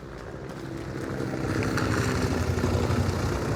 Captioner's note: helicopter passing overhead